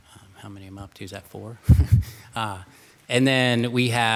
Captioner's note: laughs